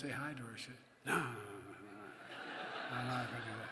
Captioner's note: laughter